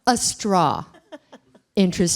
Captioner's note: laughter